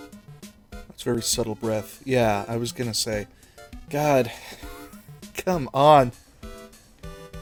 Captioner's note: wheeze